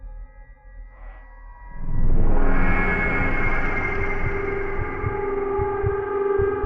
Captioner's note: soft eerie music; heartbeat thumping